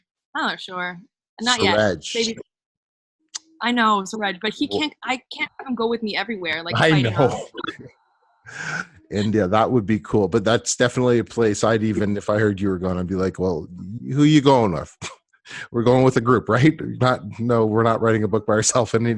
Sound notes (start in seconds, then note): 6.6 laughs